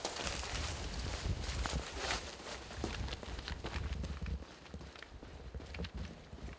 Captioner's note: running footsteps